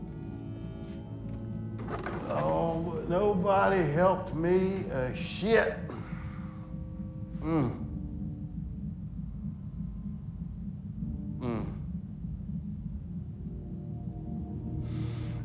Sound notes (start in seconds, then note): 7.3 groans; 11.4 Carl groans